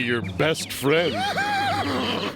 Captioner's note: laughing